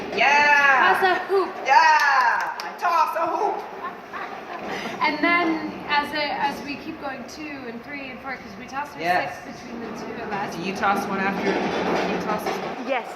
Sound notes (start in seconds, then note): 3.5 laughter